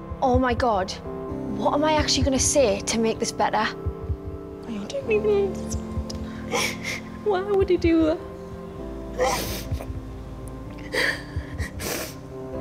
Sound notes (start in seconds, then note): 6.7 sniffles